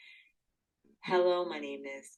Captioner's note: recorded voice